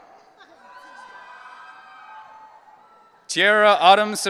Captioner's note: audience cheering